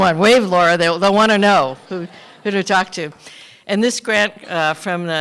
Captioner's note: laughter